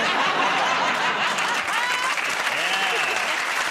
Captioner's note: applause